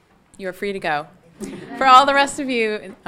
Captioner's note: audience laughing